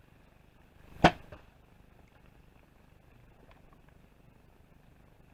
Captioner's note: bow string releases